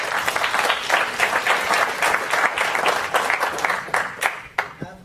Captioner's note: applause